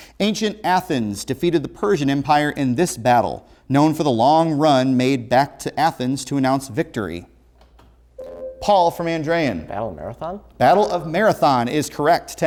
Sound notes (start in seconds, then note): 8.2 ringing